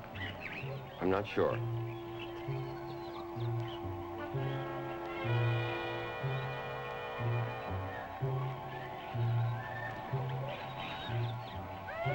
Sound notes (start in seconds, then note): 1.8 birds chirping; 1.8 mysterious music